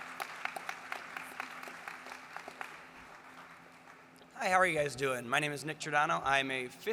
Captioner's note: applause